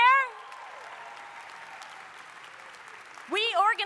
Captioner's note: audience applauding; audience cheering